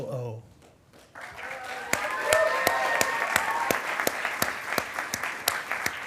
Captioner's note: attendees applauding and cheering